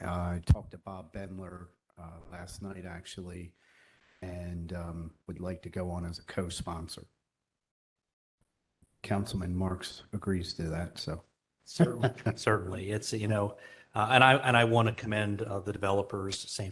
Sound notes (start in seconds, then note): 11.7 laughter